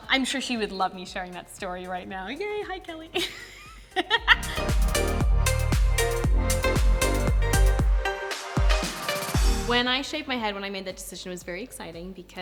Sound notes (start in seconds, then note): 3.2 laughs; 4.9 upbeat music